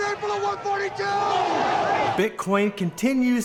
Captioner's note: crowd yelling